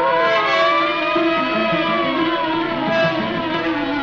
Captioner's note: siren wailing